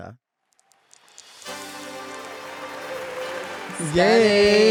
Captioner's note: upbeat music; audience cheers